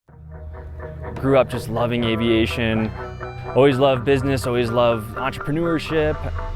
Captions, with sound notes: - Grew up just loving aviation. (drone system sound) Always loved business, always loved entrepreneurship.